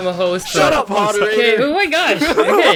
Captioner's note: both laugh